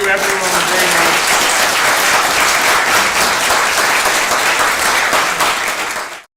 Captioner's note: applause